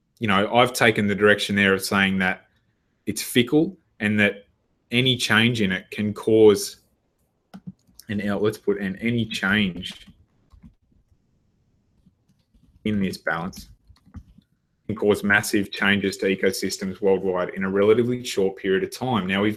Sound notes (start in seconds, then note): 6.7 typing